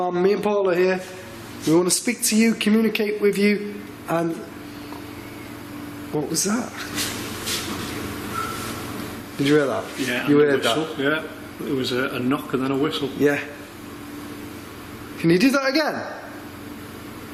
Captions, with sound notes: - Come on out, me and Paul are here. We wanna speak to you, communicate with you. (faint whistle) What was that? (clear whistle) Did you hear that? - Yeah, a whistle. - You heard that? - Yeah, it was a knock and then a whistle. - Yeah. Can you do that again?